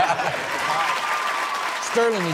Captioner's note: all laugh; crowd claps and cheers